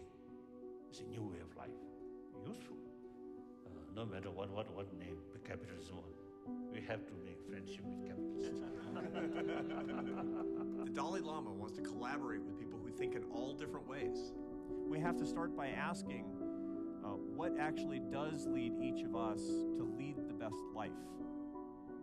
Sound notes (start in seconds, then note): 8.4 all laughing